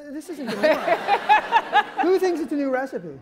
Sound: laughs

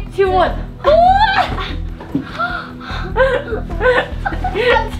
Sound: kids laughing

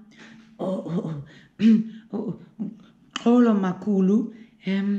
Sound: clears throat

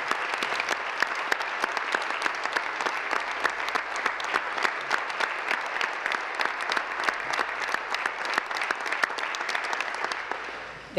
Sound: applause

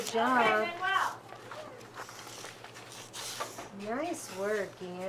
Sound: background chatter

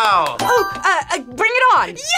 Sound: buzzer rings

